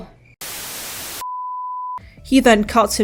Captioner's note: static